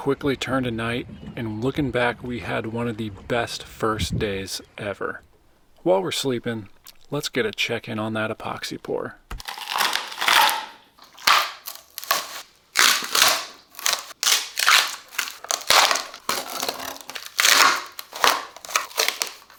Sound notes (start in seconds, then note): 12.8 splash